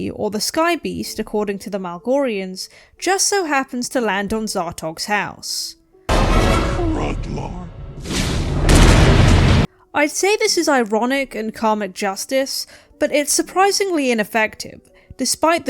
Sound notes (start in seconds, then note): 8.3 crash